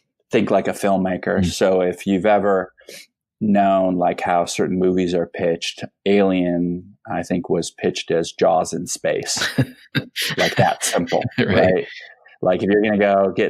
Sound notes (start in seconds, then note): 9.2 laughing